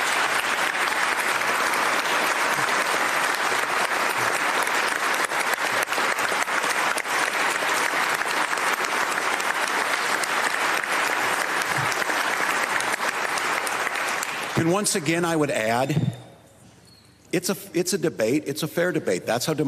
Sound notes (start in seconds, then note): 2.6 applause